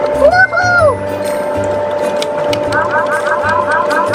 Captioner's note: hooting